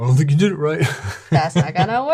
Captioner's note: laughs